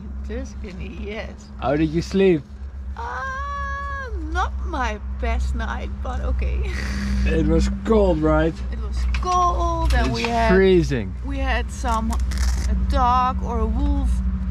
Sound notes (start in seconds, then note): 0.3 giggles; 6.6 giggles